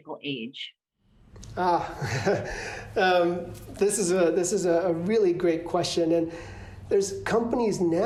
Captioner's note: laughter